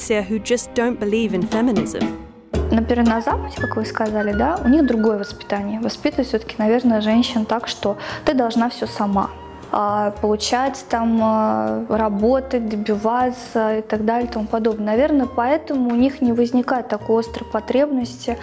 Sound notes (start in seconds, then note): 3.0 non-english speech